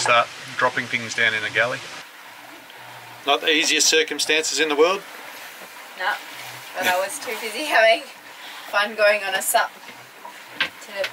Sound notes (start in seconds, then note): none